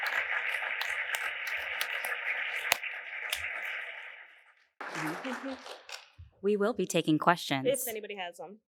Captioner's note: applause